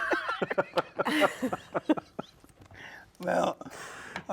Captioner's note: all laugh